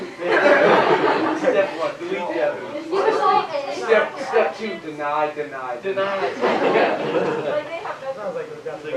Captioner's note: laughter